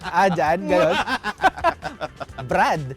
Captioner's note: laughs